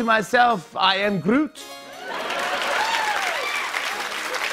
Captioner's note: cheers and applause